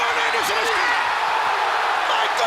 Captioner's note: crowd cheering